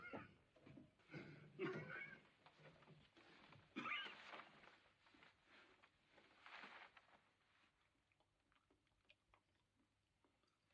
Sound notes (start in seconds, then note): 1.1 continues Coughing